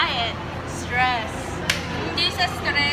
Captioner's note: claps